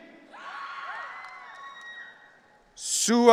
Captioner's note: audience cheering